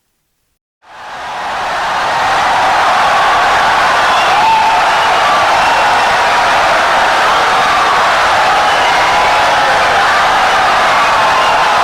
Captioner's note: wild applause and cheering for 17 seconds